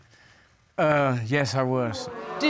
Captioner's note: audience exclaims